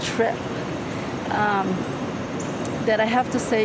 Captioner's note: birds chirping